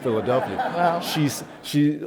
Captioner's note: laughs